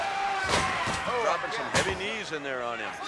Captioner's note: audience shouting and chattering